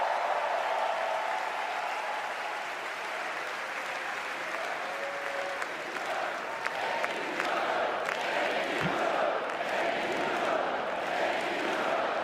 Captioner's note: cheers